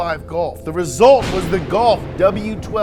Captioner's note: thunderclap